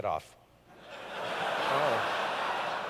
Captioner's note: laughter